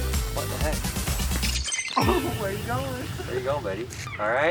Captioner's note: laughing